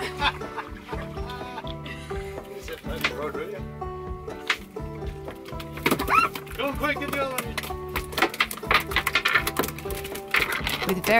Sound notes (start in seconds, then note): 0.0 laughs; 2.4 screaming and mumbling; 5.0 fish slapping the floor; 8.8 fish continue to slap the floor